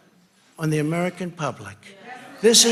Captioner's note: crowd